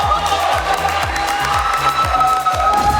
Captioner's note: clapping